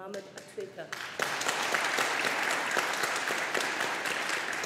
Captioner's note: audience applauding